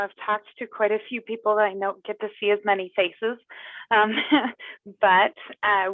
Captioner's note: laughs